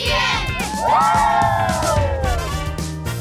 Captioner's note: cheering